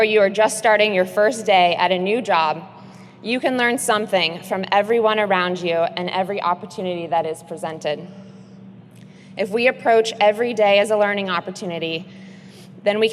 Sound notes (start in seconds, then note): none